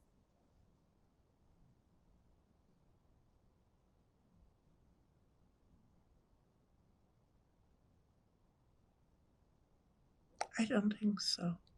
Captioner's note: pauses 11 seconds